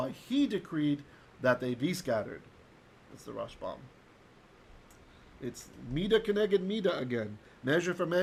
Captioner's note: Hebrew